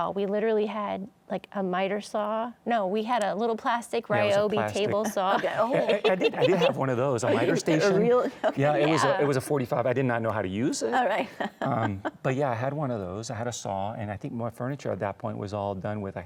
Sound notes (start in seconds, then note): 4.7 laughs; 11.2 laughs